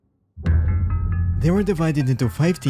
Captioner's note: deep hit